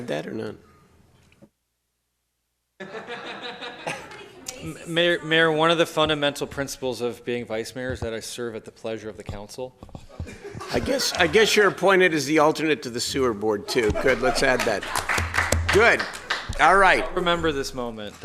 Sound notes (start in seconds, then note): 6.5 laughs; 10.1 laughs